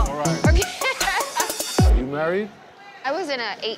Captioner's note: laughing